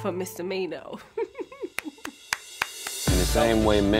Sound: chuckling

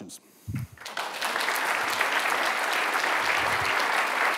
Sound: audience applauding

